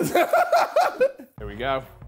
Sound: laughing

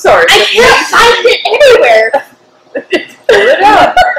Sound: laughter

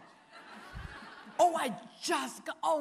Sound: audience laughing

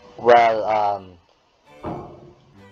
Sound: none

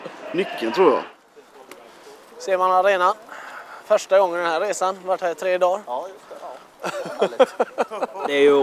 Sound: chuckles

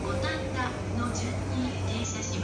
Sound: train annoucements in japanese

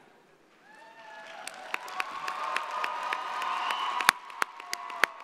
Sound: audience applauding

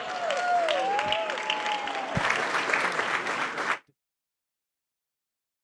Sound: applause

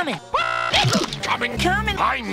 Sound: shblooop

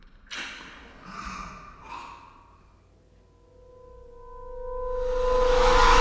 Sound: whisper Sound echo

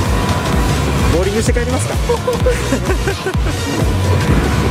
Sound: laughs

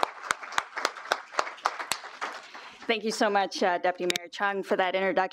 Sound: applause

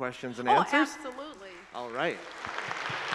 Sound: audience applauding

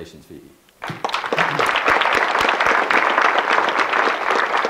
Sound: audience clapping

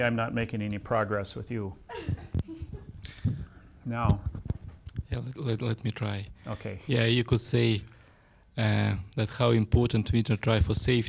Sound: laughs

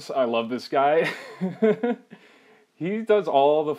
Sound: laughing

